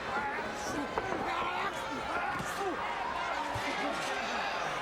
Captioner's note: crowd chattering